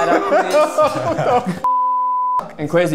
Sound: beep

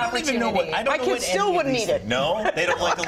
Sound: laughter

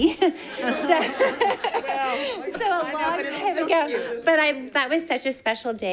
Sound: crowd laughing

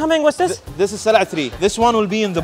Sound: speaks foreign language

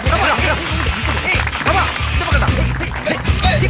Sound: applause

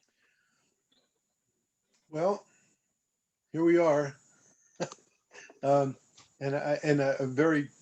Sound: laughter

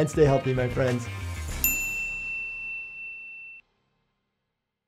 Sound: bell dinging

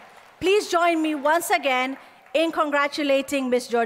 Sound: applause

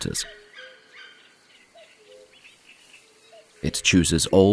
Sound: sounds of nature

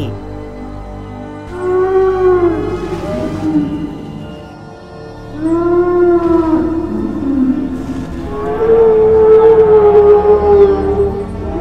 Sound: Brachiosaurus Sounds

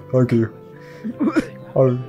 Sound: titters

